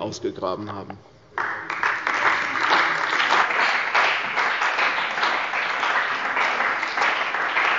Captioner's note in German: Beifall bei der CDU und dem BÜNDNIS 90/DIE GRÜNEN